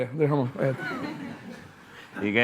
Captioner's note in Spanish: Risas